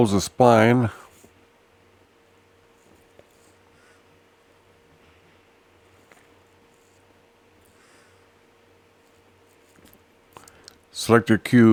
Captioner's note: silence